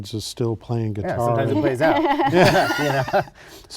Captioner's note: laughter